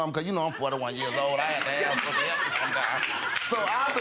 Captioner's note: audience laughs